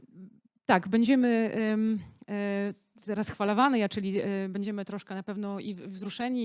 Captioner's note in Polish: białoruski